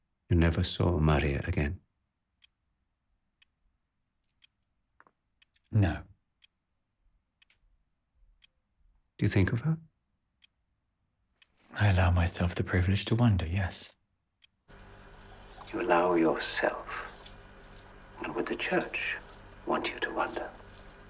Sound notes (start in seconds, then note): 14.8 reels clicking